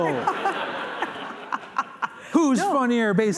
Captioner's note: laughter